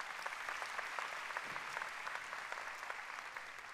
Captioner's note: applause